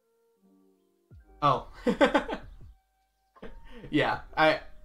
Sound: laughs

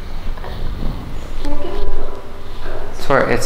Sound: crying

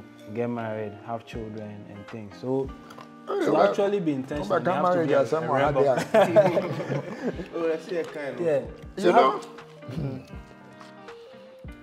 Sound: laughter

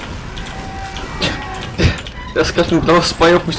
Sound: noises indicating humour

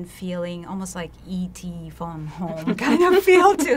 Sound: laughs

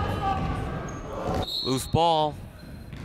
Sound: whistle blowing

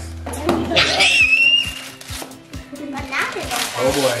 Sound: screams

